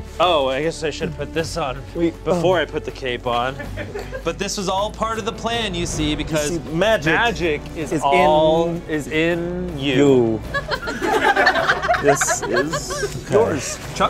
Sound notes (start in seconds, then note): 10.5 audience laughter